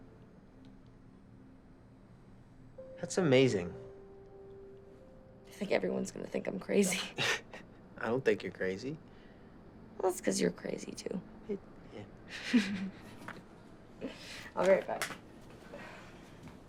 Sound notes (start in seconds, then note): 12.3 chuckling